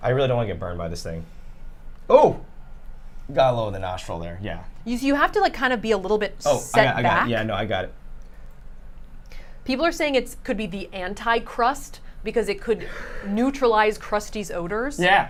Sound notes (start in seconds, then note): 12.8 huffs